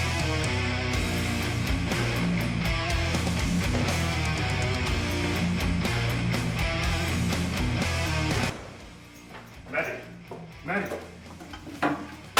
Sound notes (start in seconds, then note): 8.5 door slams shut